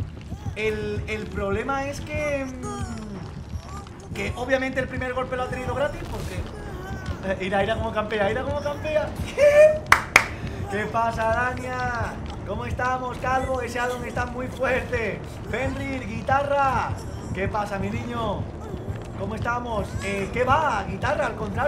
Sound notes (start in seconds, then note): 9.8 claps in Spanish; 10.3 wheezes in Spanish